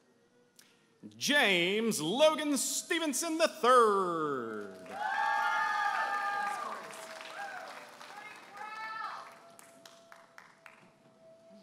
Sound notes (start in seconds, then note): 4.4 audience applauding and cheering